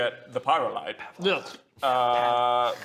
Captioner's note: whispers